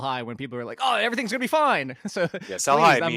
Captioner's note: laughs